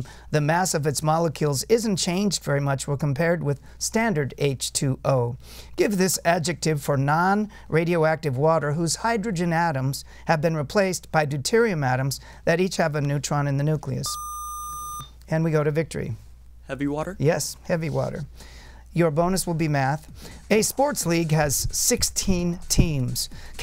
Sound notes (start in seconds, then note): 14.1 buzzer